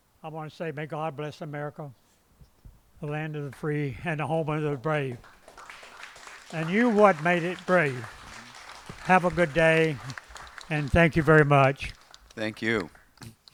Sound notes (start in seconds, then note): 11.8 applause